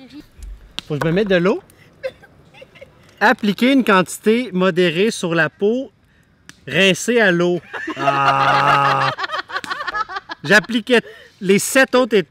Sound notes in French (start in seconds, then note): 2.1 en riant; 7.6 rires